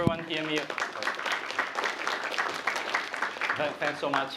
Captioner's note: applause